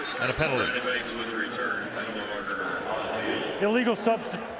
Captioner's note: pa announcement